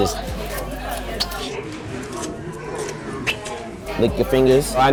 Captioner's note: kissing fingers